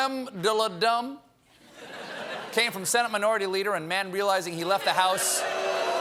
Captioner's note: booing